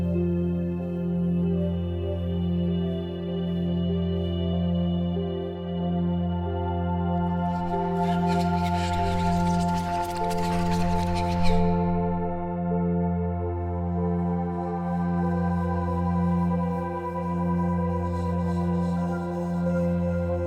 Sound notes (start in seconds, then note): 7.8 whispering